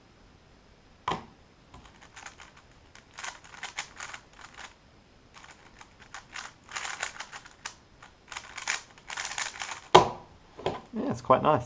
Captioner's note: cube noises